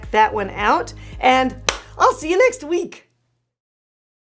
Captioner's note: hands smack